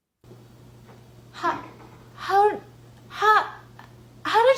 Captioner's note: stutters